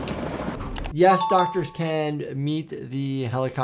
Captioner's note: bell dings